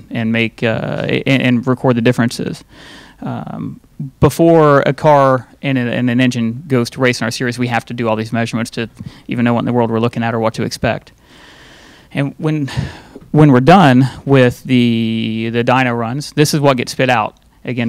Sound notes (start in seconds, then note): none